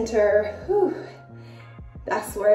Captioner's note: sighs